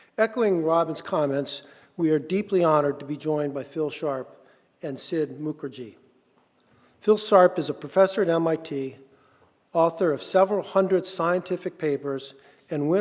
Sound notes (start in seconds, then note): none